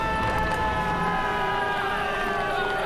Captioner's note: cheering